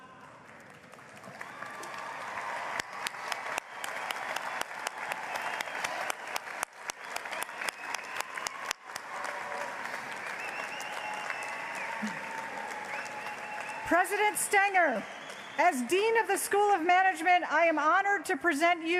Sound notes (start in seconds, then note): 5.1 applause